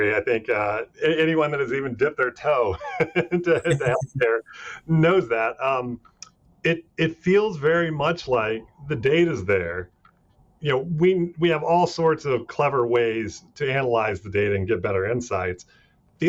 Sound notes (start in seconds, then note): 2.6 laughing; 2.6 chuckling